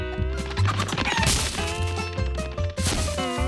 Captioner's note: chickens clucking; chickens squawk; upbeat banjo music